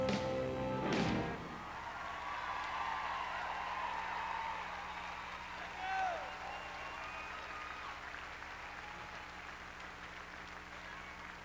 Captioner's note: crowd cheering